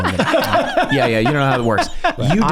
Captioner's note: gang laughing